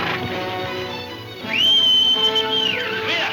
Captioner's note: horse neighing; Jim whistling